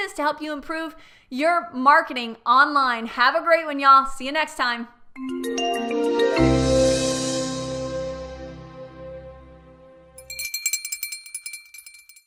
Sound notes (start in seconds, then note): 5.2 bright music; 10.1 bell ringing